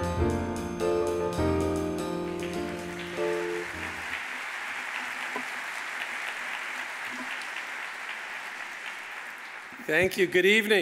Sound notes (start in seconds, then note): 2.2 audience applauding